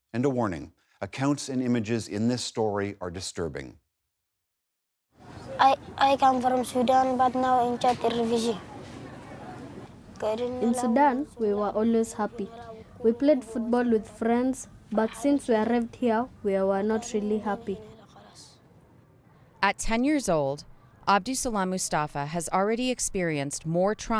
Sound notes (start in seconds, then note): 9.4 through translator